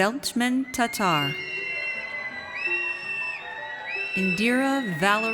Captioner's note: audience cheers